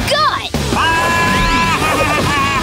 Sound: accelerating

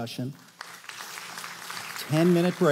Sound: applause

